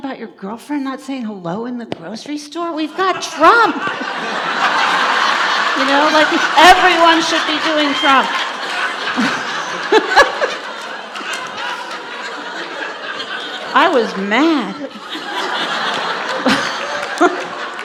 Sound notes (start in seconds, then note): 9.0 audience laughs; 15.5 laughter